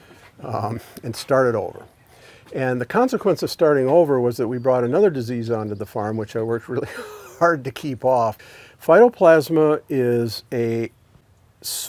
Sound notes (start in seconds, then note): 6.8 laughs